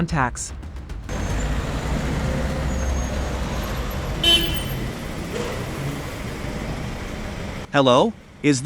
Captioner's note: street sounds